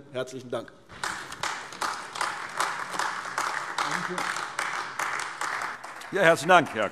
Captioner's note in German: Beifall AfD